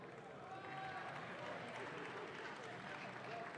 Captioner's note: audience claps